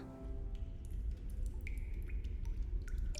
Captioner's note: water dripping